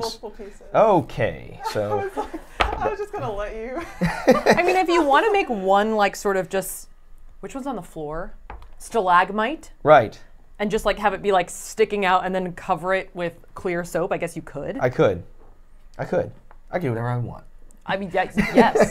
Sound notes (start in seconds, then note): 1.5 laughs; 18.3 laughs